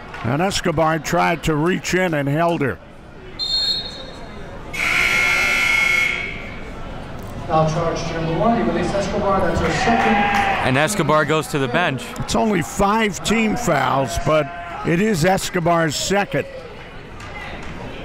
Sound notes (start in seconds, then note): 4.7 buzzer rings; 4.7 whistle blows